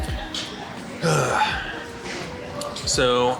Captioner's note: grunting